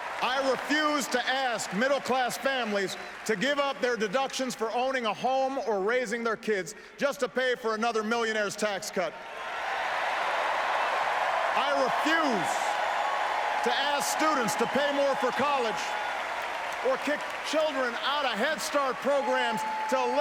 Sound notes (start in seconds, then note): 10.7 applause